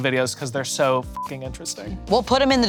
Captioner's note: beep